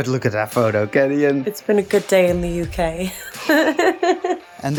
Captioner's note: laughs